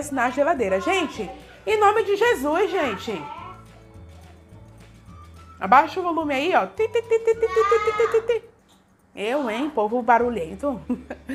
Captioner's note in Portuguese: Risos